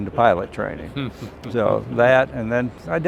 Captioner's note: laughing